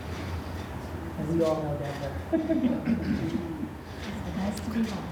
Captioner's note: laughs